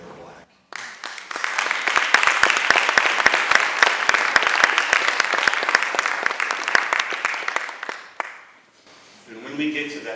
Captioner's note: applause